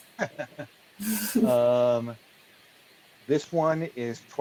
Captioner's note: laughs